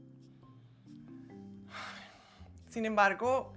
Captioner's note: suspira